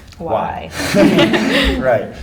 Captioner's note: laughter